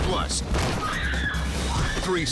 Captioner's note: woman screams